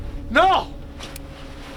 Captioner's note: groans loudly